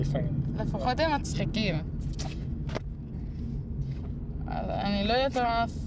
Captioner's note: speaking foreign language